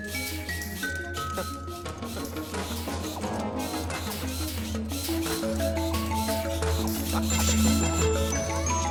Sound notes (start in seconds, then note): 1.2 chuckles